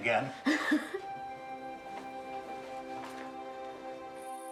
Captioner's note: Jimmy laughing